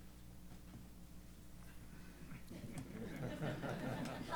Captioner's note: laughter